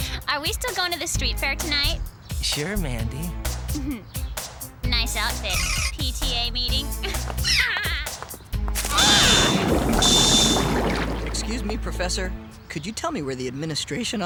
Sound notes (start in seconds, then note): 7.5 laughter; 8.8 screaming; 11.1 boiling